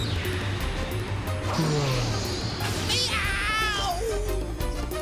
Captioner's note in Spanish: gritos